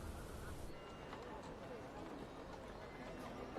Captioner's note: marketplace chatter